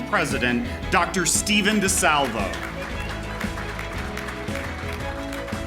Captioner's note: applause